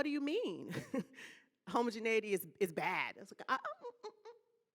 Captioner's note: laughing